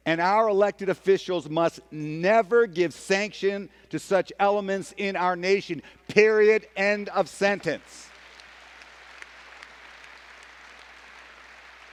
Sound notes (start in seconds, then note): 8.0 applause